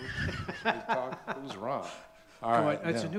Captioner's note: laughs